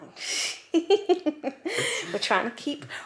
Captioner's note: laughs